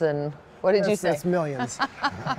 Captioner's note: laughter